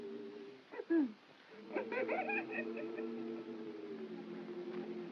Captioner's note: Stan giggles